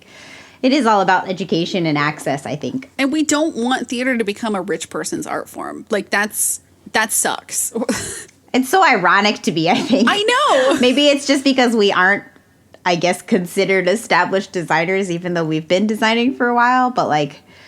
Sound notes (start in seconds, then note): 9.8 laughs